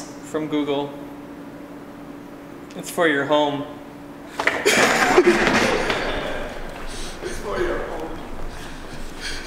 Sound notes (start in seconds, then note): 4.4 laughs